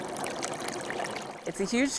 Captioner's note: water running